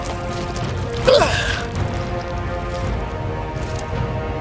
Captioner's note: grunting